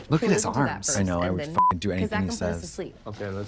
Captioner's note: beep